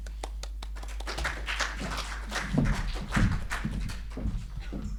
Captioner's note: audience applauding